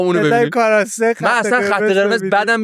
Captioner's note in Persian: خنده